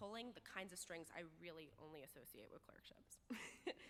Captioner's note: laughs